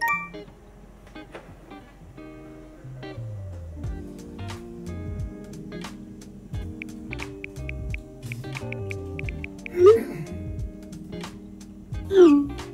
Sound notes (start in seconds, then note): 0.0 phone beeping; 6.6 keys tapping; 9.7 phone swishing